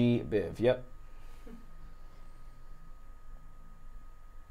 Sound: fan whirs

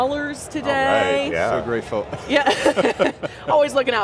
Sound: chuckles

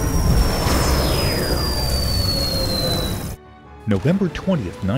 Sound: sound Effects

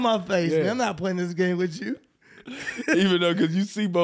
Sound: chuckles

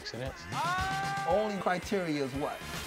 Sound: screams

